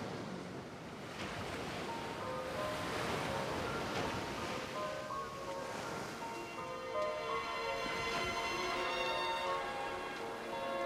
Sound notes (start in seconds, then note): 1.4 melancholic music; 2.0 waves crashing